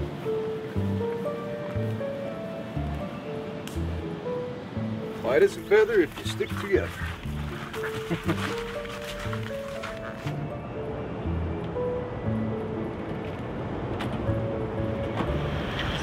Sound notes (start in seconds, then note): 0.1 soft music; 3.8 footsteps crunching; 7.2 soft music